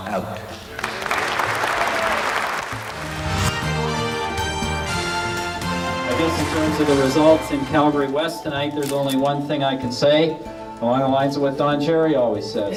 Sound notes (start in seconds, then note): 3.4 applause